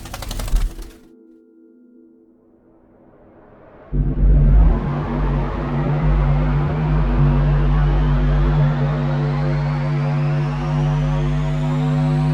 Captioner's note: wings flapping; spaceship taking off